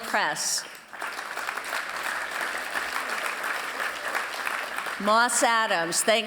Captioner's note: applause